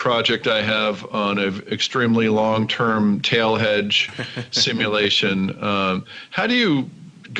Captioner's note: laughing